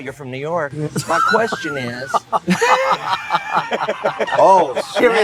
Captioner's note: laughter